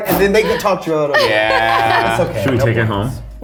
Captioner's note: laughs